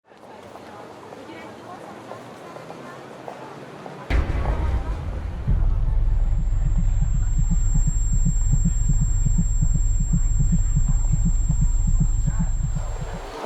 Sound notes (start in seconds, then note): 0.4 chatter; 5.2 rapid heartbeat; 6.7 high-pitched whine